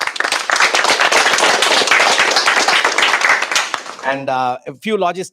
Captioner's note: applause